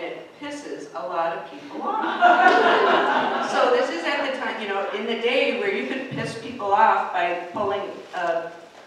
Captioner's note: laughter